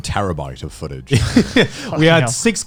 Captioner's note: laughing